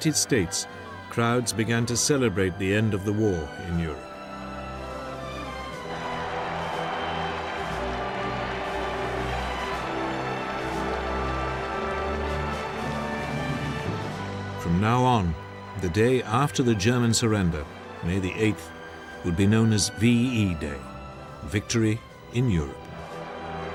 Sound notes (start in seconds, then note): 6.6 Applaus; 9.2 Applaus